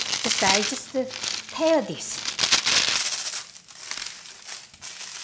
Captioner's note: tearing sound